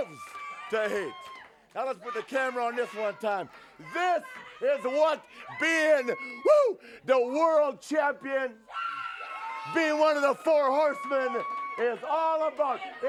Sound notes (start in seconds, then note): 8.7 audience cheers